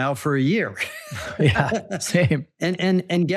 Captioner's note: both laugh